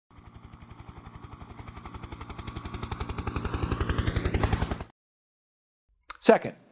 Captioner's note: helicopter in flight